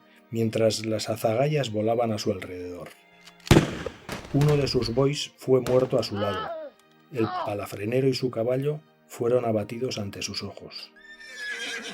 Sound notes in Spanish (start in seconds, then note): 3.4 sonido de un disparo; 11.0 relinchar de caballo